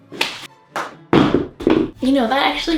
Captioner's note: shoe slams to ground